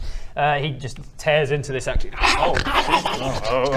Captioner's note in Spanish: gruñendo y mordiendo